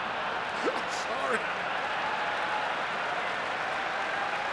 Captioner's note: laughs